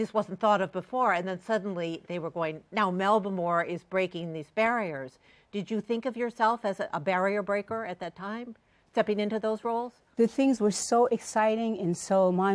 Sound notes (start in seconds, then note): none